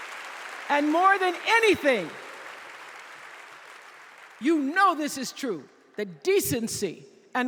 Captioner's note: applause